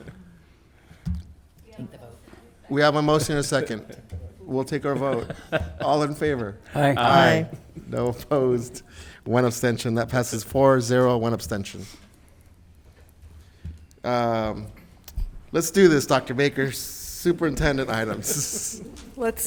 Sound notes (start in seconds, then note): 4.9 laughs